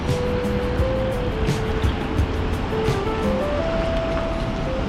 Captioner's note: wind Blowing